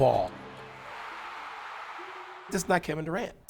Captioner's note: crowd cheering